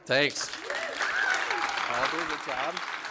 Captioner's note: applause